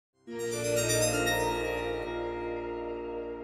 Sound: start up sound

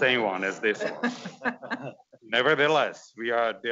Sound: all laughs

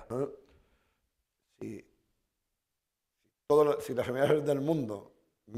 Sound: speaking spanish

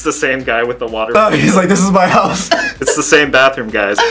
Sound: laughs

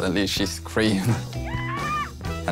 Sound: mom screams through the phone

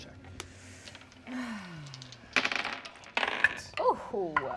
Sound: dice rolling

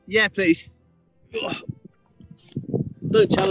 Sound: groans

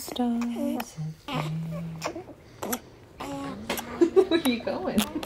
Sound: singing her song to the babies; baby sounds continue in the background; laughs

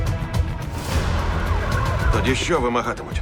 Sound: sirens wailing

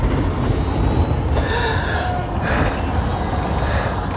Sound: gasping

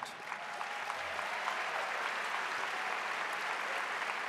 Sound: audience applauding

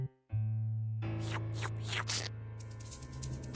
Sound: slurping

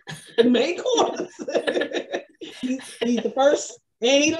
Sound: both laughs

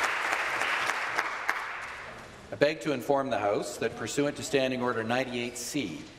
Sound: applause

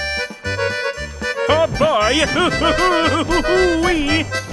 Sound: laughing

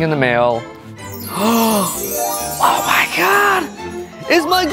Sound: gasp

